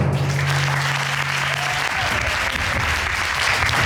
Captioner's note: audience applauding